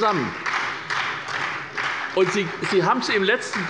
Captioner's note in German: Beifall bei der SPD